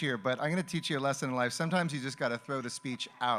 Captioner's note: speaking Spanish